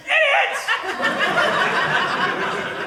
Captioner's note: audience laughing